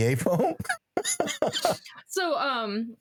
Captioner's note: laughing